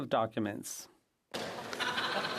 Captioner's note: speaking French